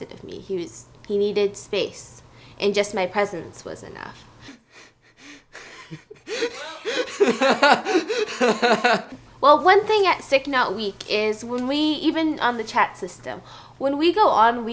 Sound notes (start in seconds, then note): 5.5 laughing